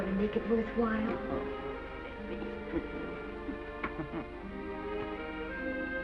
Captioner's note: chuckles